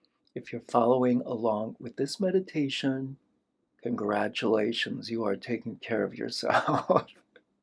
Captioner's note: laughter